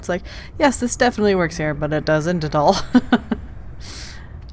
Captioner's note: laughs